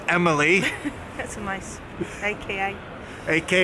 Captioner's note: chuckles